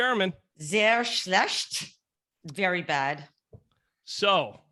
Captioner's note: speaking foreign language